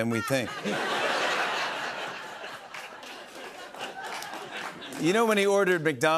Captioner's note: laughter